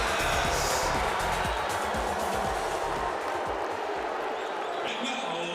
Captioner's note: crowd cheering